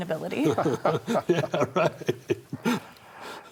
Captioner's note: all laugh